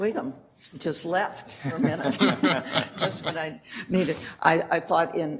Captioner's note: laughter